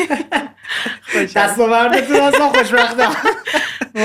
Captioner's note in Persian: خنده